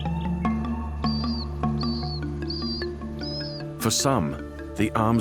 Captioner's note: chick chirps